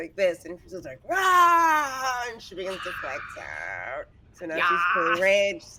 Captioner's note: yells